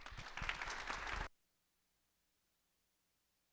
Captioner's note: audience claps